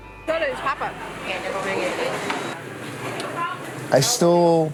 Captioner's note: gentle music; speaking in a foreign language